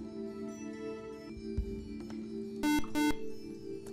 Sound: buzzer

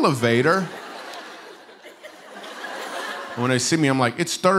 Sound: laughter

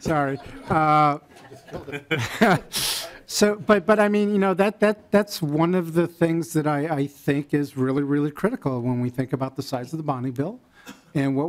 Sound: laughing

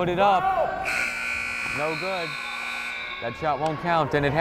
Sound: buzzer blares

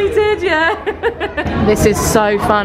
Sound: laughing

